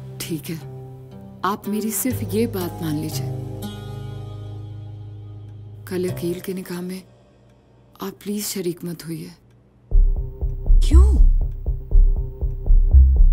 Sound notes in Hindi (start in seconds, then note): none